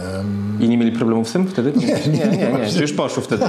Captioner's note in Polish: śmiech